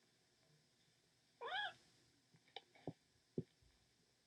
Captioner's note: mewing